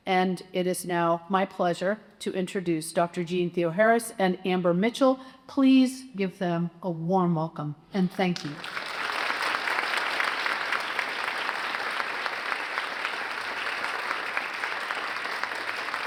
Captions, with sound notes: And it is now my pleasure to introduce Dr. Jeanne Theoharis and Amber Mitchell. Please give them a warm welcome, and thank you. (audience applauds)